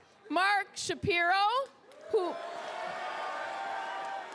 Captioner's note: crowd cheers